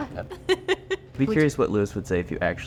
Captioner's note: laughing